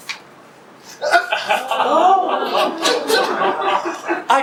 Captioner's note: audience gasp and laugh